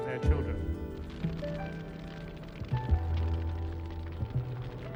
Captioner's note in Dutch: vlammen knetteren